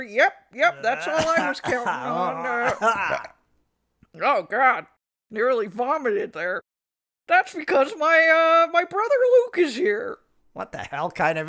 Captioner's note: Luke clears throat and Leia belches